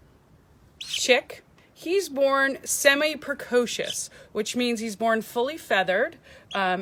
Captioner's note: chirp